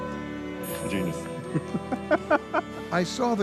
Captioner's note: harp music; chuckles